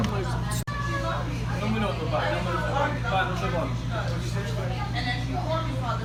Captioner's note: customer and employee chatter